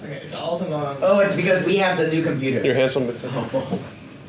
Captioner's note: teammates chattering